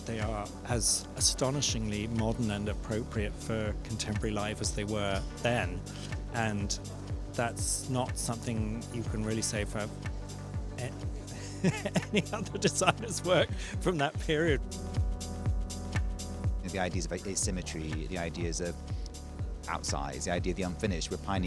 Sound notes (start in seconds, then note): 11.3 laugh